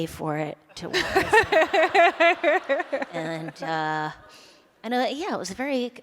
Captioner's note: laughter